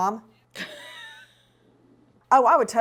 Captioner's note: laughs